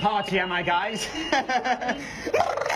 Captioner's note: laughs